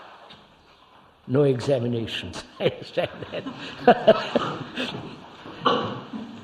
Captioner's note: laughs; laughter